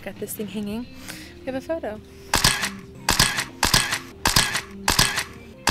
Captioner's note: camera shuttering